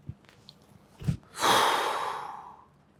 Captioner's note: exhales